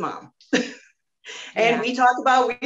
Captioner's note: laughs